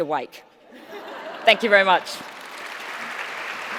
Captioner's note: laughter